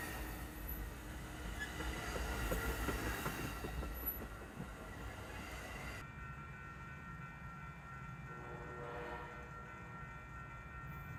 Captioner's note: train horn